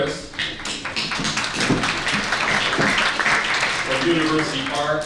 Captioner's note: audience clapping